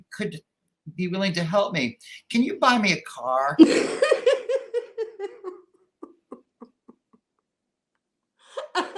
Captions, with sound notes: "could be willing to help me. "Can you buy me a car?" (laughter)